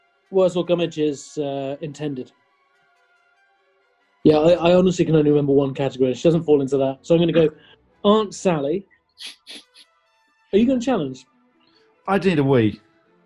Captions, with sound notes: Worzel Gummidge's, er, intended. Yeah, I honestly can only remember one category, and she doesn't fall into that. So, I'm going to go Aunt Sally. [SNIGGERING] Are you going to challenge? I ndeed a wee.